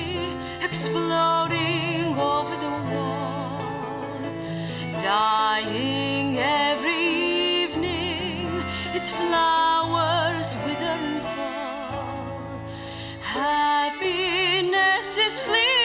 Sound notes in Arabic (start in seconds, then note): none